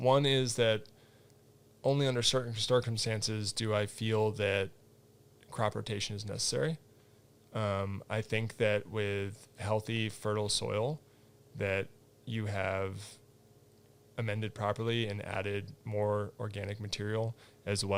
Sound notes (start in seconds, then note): none